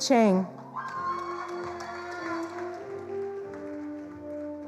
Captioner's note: attendees applauding